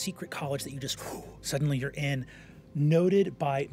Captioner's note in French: pouf